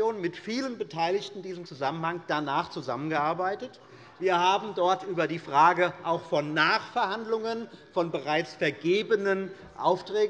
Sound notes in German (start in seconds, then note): none